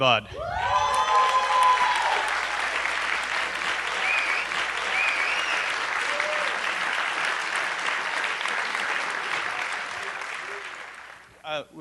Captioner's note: applause